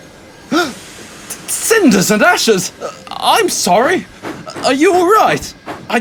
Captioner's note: gasp